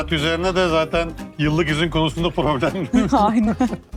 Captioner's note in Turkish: kahkaha